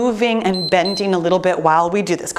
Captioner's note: timer beeps